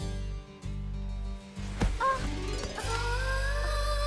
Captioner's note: gasps